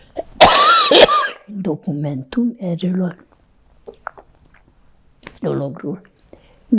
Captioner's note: coughing